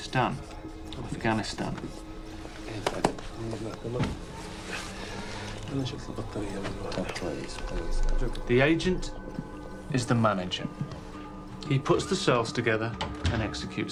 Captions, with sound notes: in Pakistan, Afghanistan. (speaking foreign language) The agent is the manager. He puts the cells together